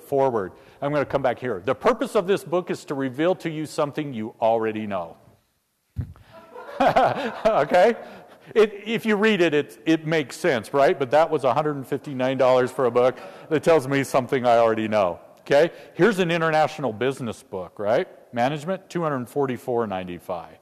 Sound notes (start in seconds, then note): 6.2 laugh